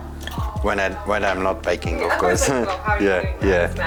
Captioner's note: chuckles